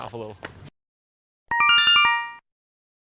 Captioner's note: Yume Nikki Instructions sound effect